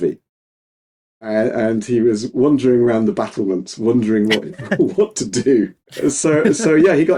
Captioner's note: both laughing